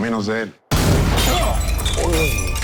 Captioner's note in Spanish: Disparo